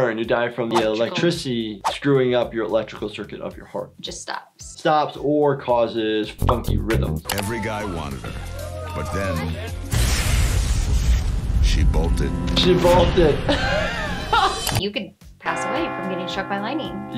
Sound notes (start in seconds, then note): 9.9 electricity zapping; 13.5 laughing